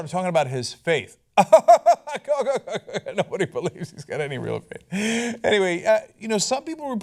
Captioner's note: laughter